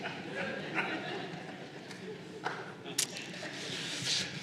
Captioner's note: laughter